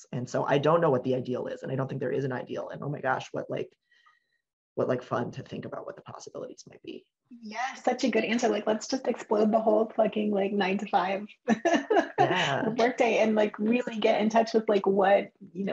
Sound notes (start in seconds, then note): 11.4 chuckles